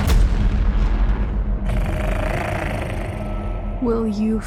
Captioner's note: creature growls